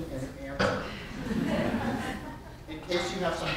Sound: audience laughter

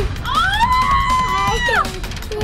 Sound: mom screaming

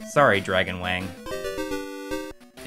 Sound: game audio

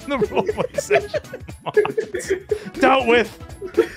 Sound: laughter

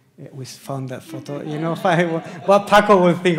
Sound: audience laughs

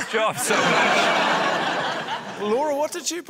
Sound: laughter

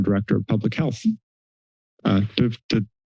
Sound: silence

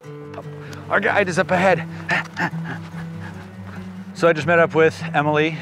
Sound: panting

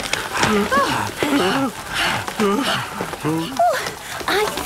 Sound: all groaning and panting; barking, squeaking, bleating

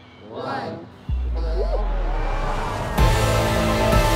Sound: crowd cheers; upbeat music

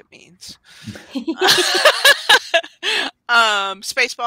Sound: all laughing

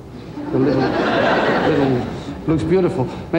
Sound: crowd laughs

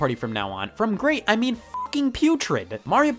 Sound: beep

